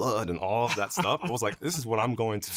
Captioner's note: laughing